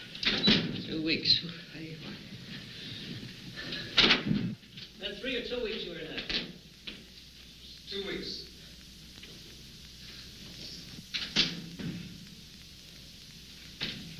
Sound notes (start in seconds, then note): 10.4 door closing